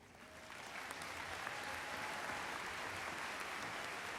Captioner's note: audience applauds